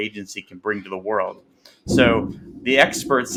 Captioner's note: thunder clapping